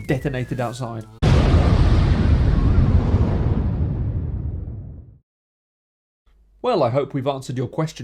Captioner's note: hellish Explosion